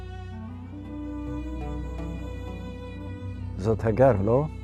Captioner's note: speaking in Hebrew